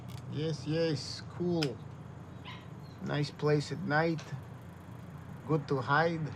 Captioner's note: dog yapping